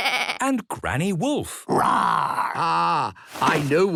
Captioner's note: bleating; roaring